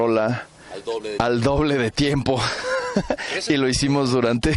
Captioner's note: laughs